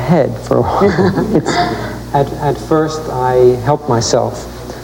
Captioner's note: laugh